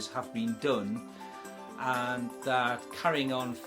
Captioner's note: none